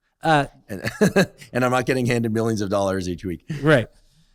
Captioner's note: laughs